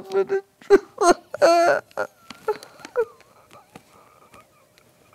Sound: dramatic crying continues

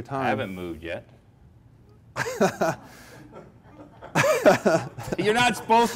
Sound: laughing

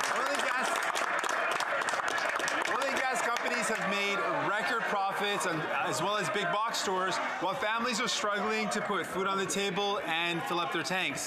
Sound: some Applause

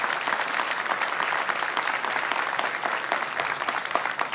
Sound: applause

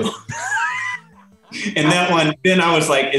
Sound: laughing

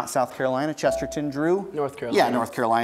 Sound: buzzer beeps

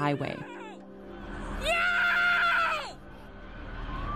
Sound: screaming

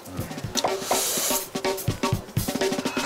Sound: deep breaths/big

